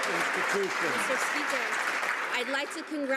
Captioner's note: some Applause